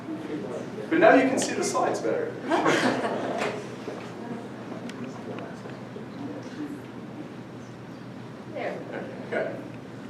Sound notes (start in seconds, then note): 2.4 audience laughing